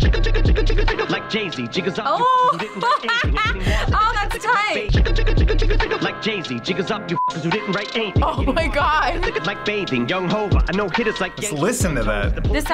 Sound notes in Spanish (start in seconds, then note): 2.2 risas